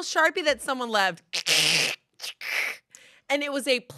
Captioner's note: mimics cracking